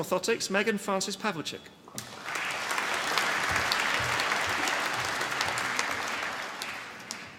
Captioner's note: applause